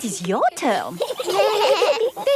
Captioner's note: children giggling